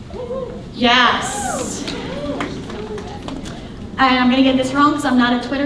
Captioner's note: audience cheering